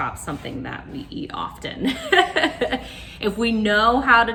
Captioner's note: laughs